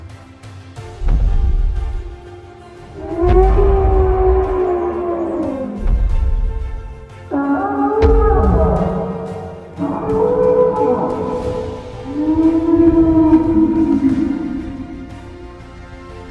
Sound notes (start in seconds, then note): 0.2 Brachiosaurus stomping sounds; 2.6 continued Brachiosaurus sounds